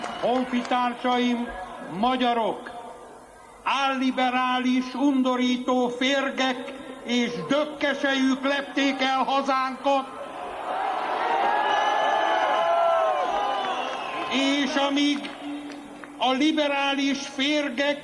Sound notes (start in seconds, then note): 12.0 blowing